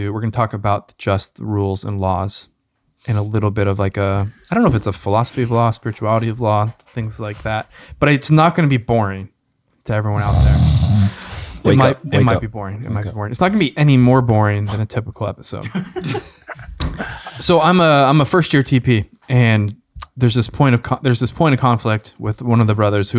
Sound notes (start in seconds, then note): 10.1 Father PT snores; 15.6 friars laugh